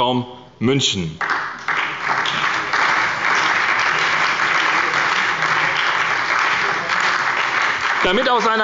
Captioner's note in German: Beifall bei der SPD und dem BÜNDNIS 90/DIE GRÜNEN